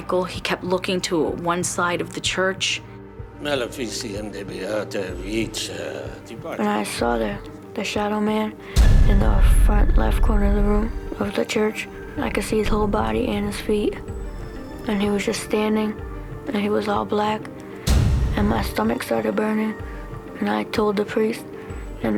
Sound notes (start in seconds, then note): 3.2 speaking latin